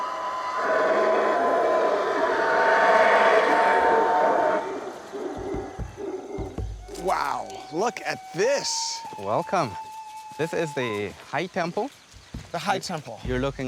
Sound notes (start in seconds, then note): 3.5 monkeys growling